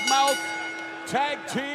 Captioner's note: bell ringing